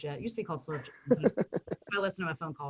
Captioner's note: laughing